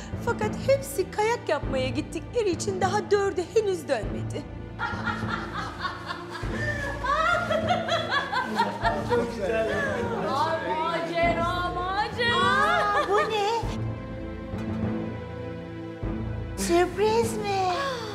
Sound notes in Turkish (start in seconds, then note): 4.7 Kahkaha sesleri